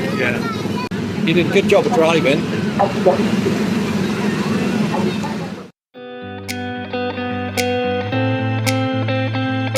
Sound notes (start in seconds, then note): 2.3 ride engines rumbling; 6.2 gentle upbeat music